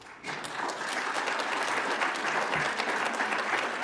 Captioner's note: audience applauds